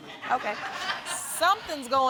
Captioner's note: audience chuckles